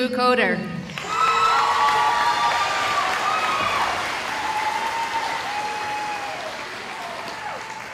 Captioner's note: cheering